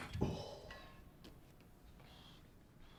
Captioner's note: groans softly